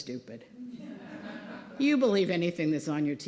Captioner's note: laughter